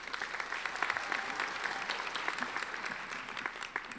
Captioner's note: applauding